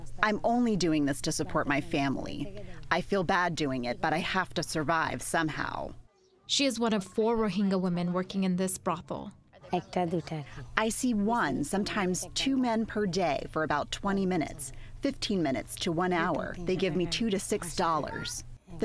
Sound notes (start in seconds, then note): 9.9 through translator